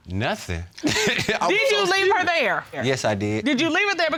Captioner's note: chuckles